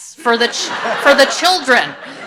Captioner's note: audience laughs